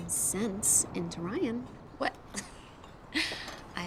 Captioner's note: laughs